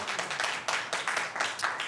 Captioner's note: applause